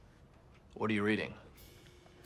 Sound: Don Draper voice

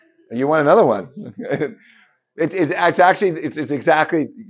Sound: chuckles

